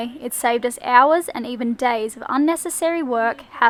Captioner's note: none